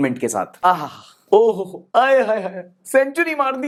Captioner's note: sigh